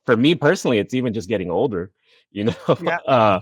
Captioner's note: chuckles